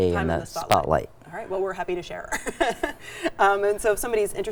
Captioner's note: chuckles